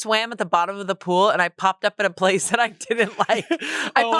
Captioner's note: laughs